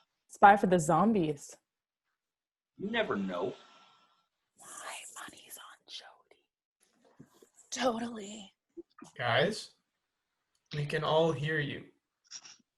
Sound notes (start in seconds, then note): 5.0 whispers; 8.1 whispers back